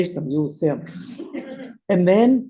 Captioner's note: laughter